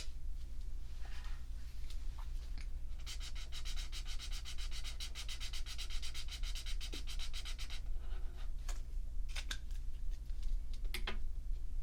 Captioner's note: swatching sounds